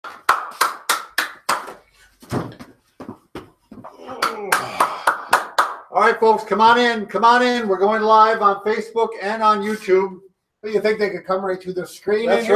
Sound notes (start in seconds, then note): 0.0 claps; 1.4 feet tap; 3.9 groans; 4.0 claps